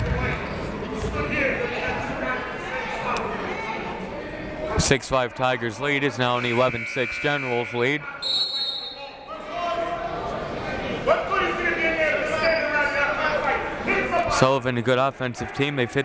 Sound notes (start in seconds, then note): 6.4 buzzer; 8.2 whistle